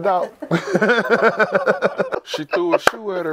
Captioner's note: laughing